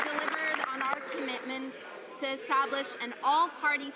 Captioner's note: some Applause